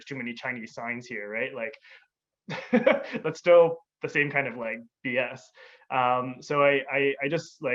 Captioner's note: laughs